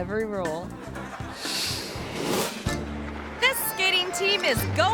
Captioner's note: audience laughs